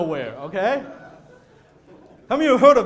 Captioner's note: audience laughing